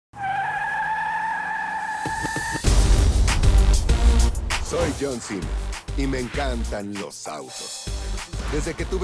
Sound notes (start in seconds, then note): 1.7 tires squealing; 3.3 upbeat rock music